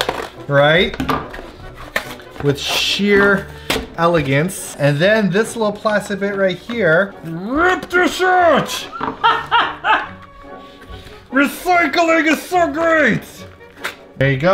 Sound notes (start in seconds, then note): 8.6 laughs; 11.9 gruff voice